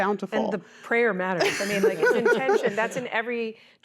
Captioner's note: laughter